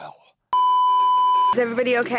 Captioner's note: beeeeeeeeeeeep